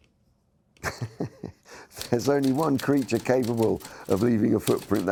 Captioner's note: chuckles